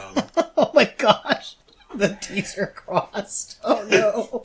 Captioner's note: laughing